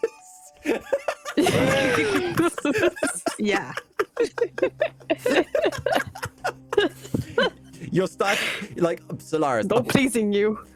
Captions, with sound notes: (laughing) Yeah. (laughing) No pleasing you.